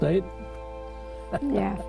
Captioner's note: chuckles